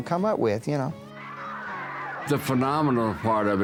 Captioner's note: crowd cheering